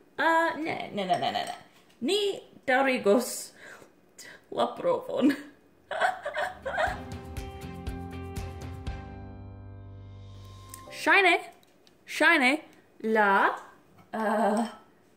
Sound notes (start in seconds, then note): 5.9 laugh